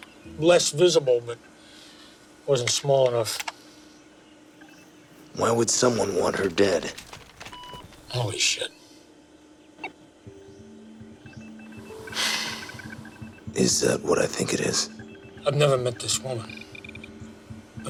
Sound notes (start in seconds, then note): 5.4 computer beeps; 12.0 sighs